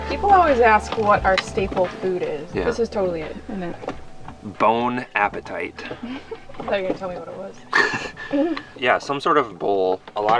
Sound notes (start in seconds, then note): 5.7 laughing